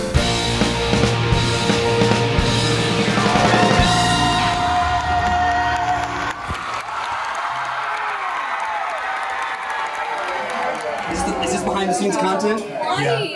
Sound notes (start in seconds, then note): 0.0 upbeat rock music; 6.6 audience cheers and applauds